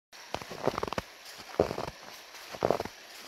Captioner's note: footsteps in the snow